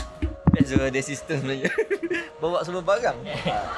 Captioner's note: laugh